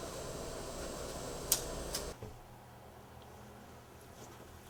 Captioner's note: paper rustles